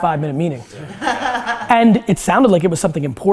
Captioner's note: group laughter